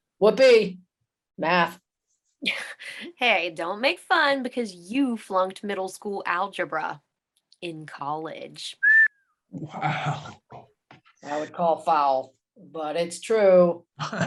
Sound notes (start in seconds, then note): 8.8 whistles; 14.0 chuckles